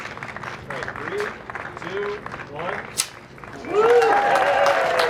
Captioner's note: crowd applauding; loud snap; crowd cheering